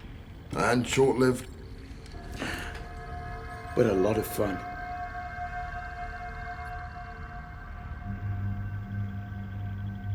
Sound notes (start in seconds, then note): 2.2 gasps